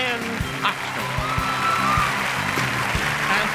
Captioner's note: cheers and applause